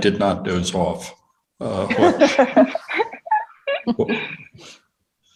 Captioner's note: laugh